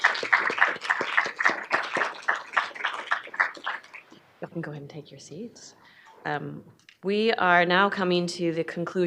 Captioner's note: applause